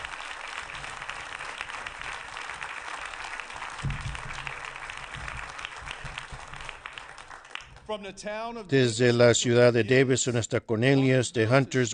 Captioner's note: applause